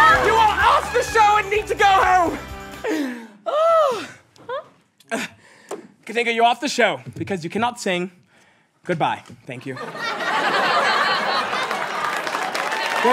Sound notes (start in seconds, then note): 3.0 sighs; 10.8 applause